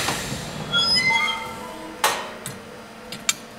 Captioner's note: squeaking